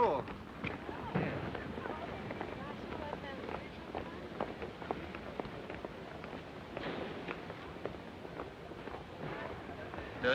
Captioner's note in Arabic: خطوات; جيلبرت يدندن